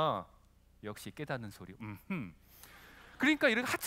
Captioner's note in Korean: 웃음